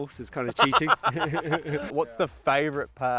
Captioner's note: laughing